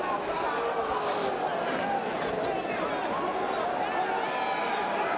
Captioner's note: crowd vocalizing